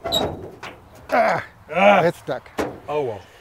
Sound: metal screeching

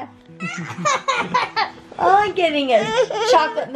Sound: laughing

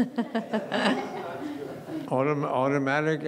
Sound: laughing

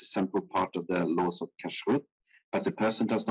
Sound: speaking in foreign language

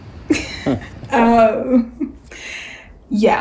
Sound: both laugh

